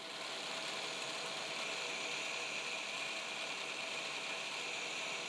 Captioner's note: machine whirring